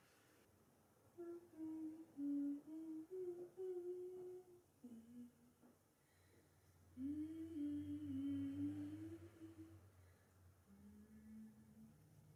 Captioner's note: I hum the melody